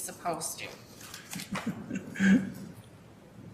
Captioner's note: laugh